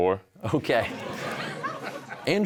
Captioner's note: audience laughs; chuckling